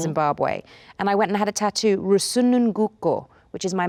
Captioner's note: speaks foreign language